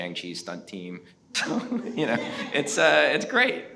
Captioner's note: everyone chuckles